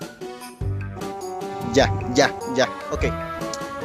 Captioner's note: words in Spanish